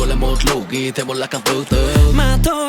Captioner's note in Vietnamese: rage